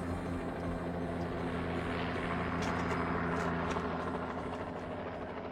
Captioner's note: helicopter whirring